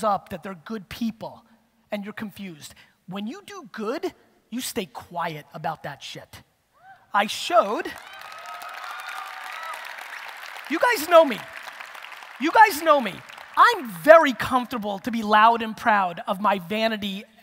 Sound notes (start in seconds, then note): 7.9 audience applause and cheers